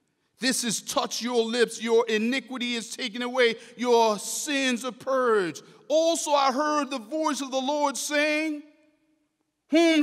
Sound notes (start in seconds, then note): none